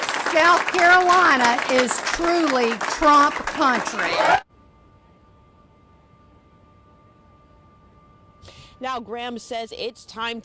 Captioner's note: applause